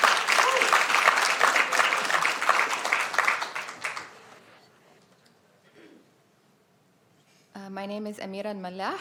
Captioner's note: applause